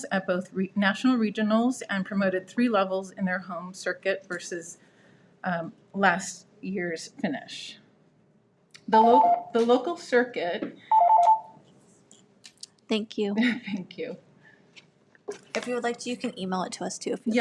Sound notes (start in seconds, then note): 10.9 timer beeps